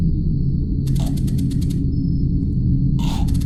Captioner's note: choking